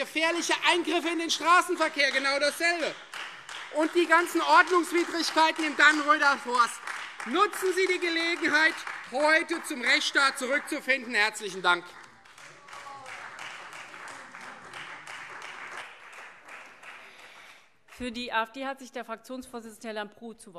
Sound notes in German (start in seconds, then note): 2.7 Beifall Freie Demokraten; 12.3 Beifall Freie Demokraten - Zurufe BÜNDNIS 90/DIE GRÜNEN